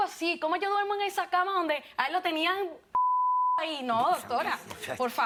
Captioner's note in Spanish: Bip